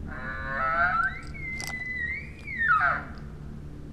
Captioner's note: bugling elk call